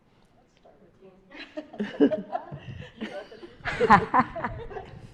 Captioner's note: panelists laughing